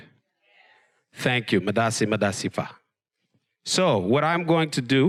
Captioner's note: speaks foreign language